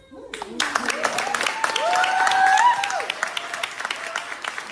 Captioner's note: applause